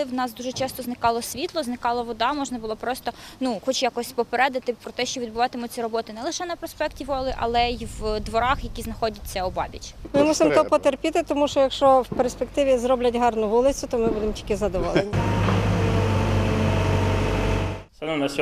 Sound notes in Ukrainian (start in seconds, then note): 15.0 звуки техніки